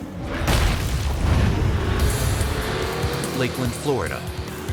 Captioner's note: logo slams